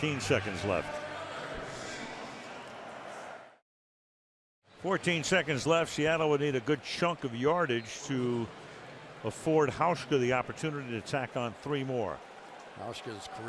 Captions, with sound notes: 14 seconds left. [pa announcement] 14 seconds left. Seattle would need a good chunk of yardage to afford Hauschka the opportunity to tack on 3 more.